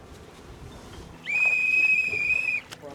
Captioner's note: whistle blowing